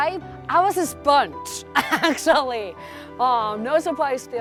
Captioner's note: laughs